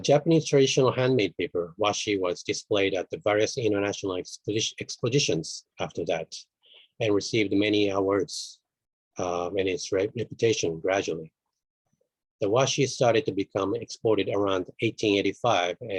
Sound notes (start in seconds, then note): none